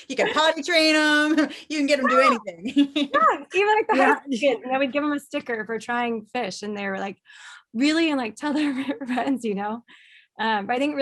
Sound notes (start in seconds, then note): 2.0 laughing